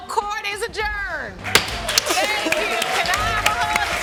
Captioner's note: gavel thuds